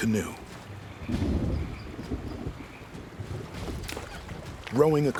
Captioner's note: thunder rolls